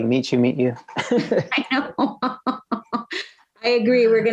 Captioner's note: laughs